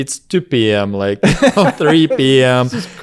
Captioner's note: laughs